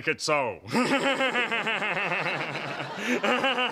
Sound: laughing maniacally

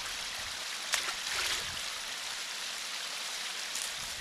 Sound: running water intensifies

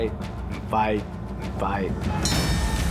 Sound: bell rings

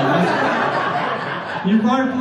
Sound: audience laughter

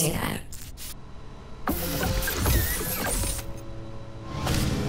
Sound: electrical whizzing; ominous music

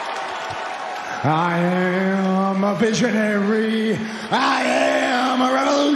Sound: cheers and applause

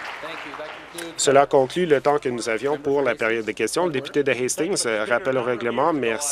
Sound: applause

